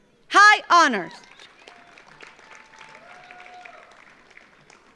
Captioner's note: audience applauds